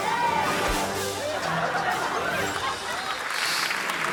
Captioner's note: playful music; audience laughing; hands clapping